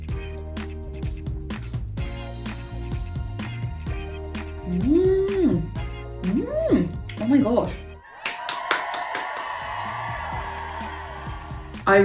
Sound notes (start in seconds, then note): 0.0 soft upbeat music; 4.9 exclaiming; 8.0 crowd cheering; 8.2 clapping